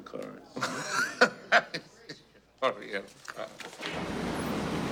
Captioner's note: laughing